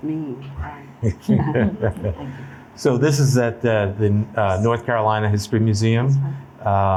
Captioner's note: laughs